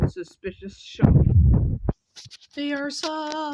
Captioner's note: more hand/Mic rubbing combos